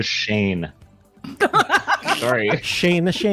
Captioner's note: laughter